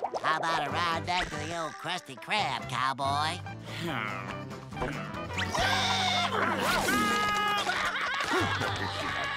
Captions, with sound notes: How ride back to the ole Krusty Krab, cowboy? [sighing] [screaming]